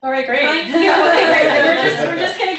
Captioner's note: laughter